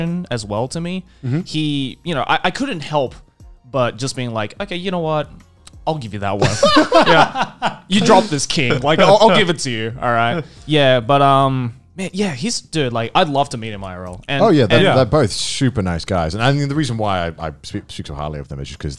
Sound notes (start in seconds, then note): 6.4 men laughing